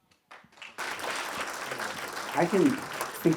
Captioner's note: audience applauds